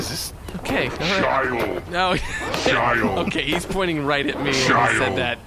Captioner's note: Pleck laughs